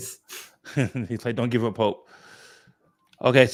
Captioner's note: laughs